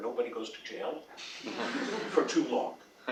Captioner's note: laugh